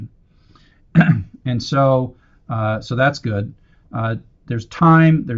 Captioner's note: cough